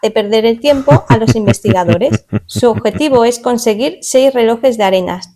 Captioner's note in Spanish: risas